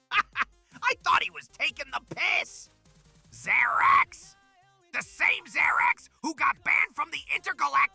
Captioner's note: skeptical laugh